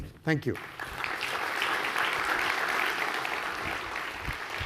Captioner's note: audience applause